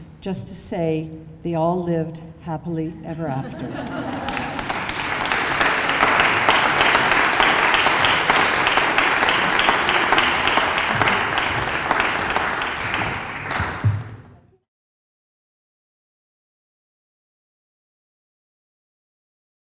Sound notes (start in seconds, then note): 3.4 laughter; 4.5 applause